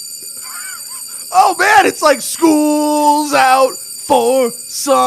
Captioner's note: soundbite of bell; laughter; singing